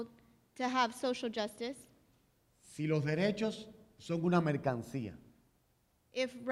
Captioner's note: speaking in Spanish